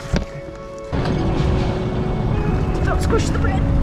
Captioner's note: upbeat music; engine roaring